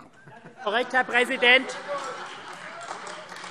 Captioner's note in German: Allgemeine Heiterkeit - Vereinzelter Beifall